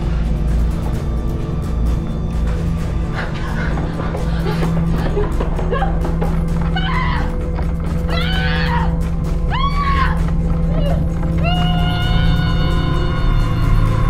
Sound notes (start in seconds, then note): 8.4 Ruth yelling; 8.4 dramatic music continues